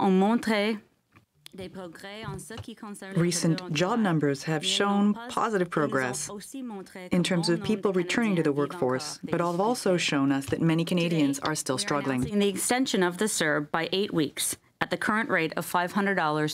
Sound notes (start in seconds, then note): 6.9 speaking French